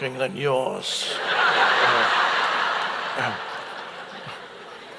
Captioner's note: audience laughs